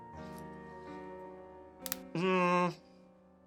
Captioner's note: snaps rubber bands